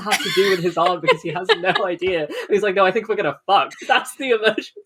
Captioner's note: laughing